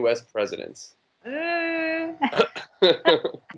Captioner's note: everyone chuckles; chuckles